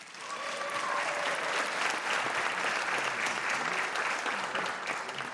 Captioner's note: applause